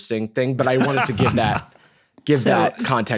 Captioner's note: laughs